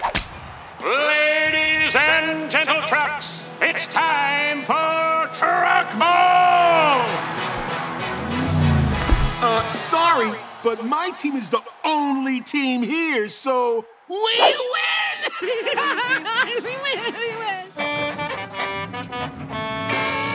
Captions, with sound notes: Ladies and gentletrucks, it's time for Truckball! Uh, sorry, but my team is the only team here, so... We win! [laughing] [honking]